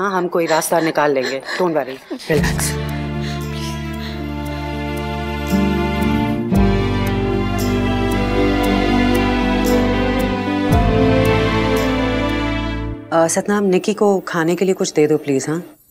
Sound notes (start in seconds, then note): 0.2 crying